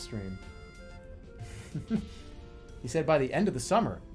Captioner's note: holding out laugh